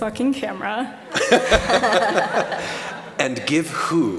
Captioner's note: laughter